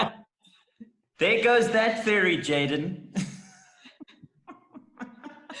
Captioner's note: laughing; laughs